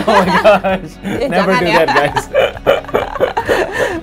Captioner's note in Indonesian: keduanya tertawa